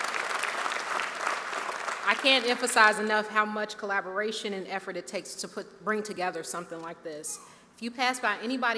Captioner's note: cheers